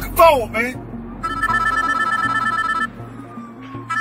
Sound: phone ringing

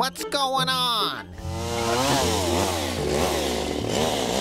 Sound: saw whirring

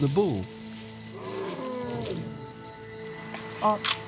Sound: elephant grunts

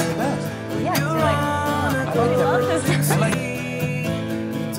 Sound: laughs

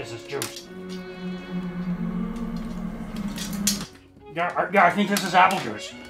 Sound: eerie, otherworldly noise emanate From under helmet

